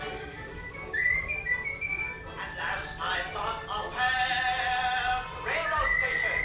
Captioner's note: whistling